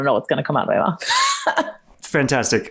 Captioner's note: laughs